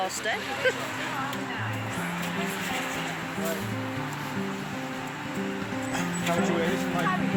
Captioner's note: crowd chattering; gentle music